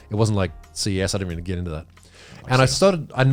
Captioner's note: laughing